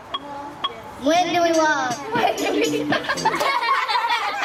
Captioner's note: laughter